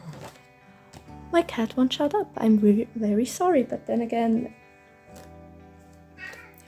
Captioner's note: meeooww; meow